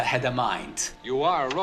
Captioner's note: soundbite of film, "forbidden planet"